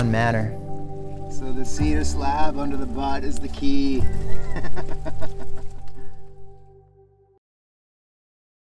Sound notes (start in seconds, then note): 4.0 laughs